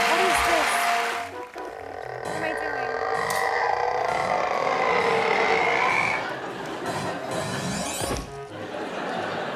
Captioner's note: applause